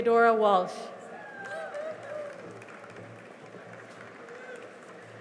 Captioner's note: cheering and applause